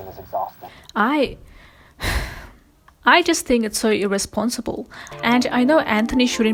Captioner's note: sighs